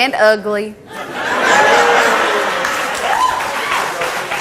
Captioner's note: audience laughs